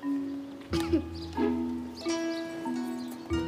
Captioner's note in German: Sie hustet